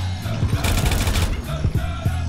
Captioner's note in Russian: сердитые звуки червей и стрельба; снова стрельба